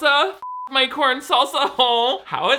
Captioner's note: beep